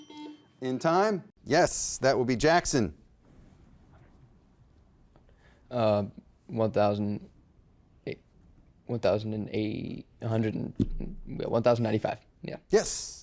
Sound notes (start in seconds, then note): 0.0 buzzer beeping